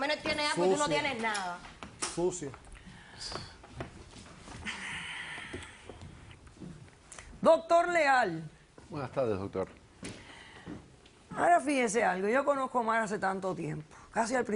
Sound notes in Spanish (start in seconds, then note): 4.6 exhala